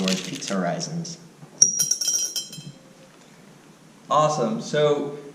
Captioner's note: pause